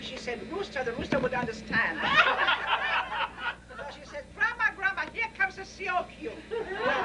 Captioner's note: laughter